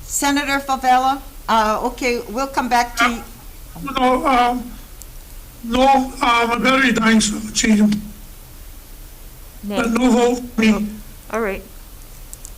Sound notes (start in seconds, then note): 4.5 microphone echoes over speaker